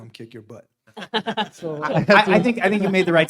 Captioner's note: panelists laugh